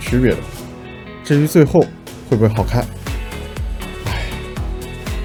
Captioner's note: sigh